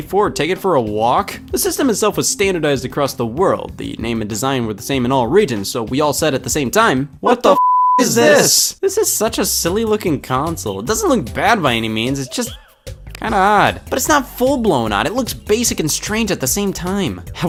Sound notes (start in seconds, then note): 7.5 beep